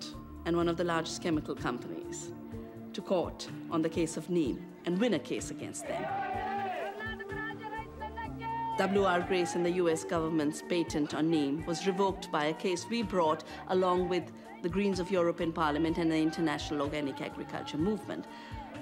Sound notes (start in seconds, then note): 6.3 shouting in a foreign language